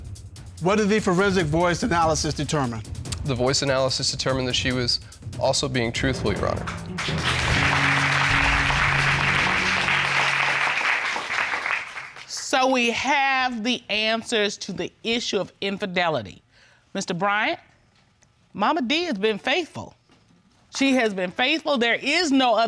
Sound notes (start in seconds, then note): 6.4 audience applauding